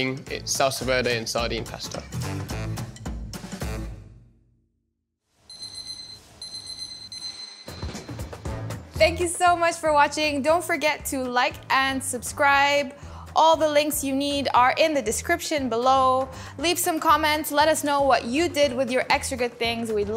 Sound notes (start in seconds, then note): 2.4 upbeat music; 5.5 alarm beeping; 8.0 upbeat music